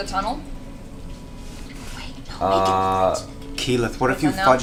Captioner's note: whispers